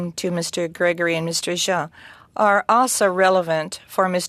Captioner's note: speaking french